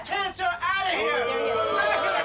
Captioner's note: crowd boos